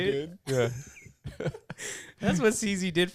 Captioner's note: laughing